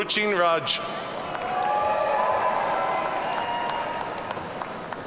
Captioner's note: audience cheering